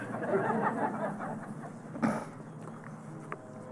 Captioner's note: laughter